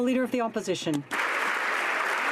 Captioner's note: some Applause